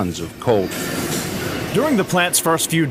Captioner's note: train wheels grinding